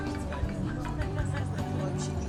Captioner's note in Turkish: telefon çalar